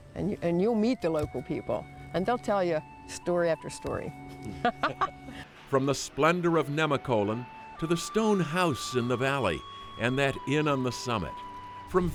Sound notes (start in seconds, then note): 4.5 laughing